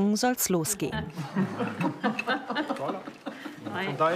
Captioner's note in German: Sie lachen und unterhalten sich